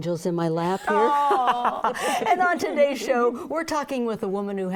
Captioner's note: laughs